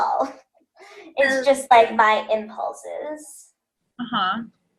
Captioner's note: laughs